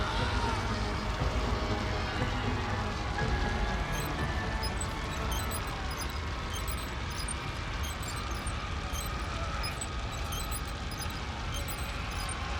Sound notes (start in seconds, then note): 3.8 wheel squeaking; 9.5 humans screaming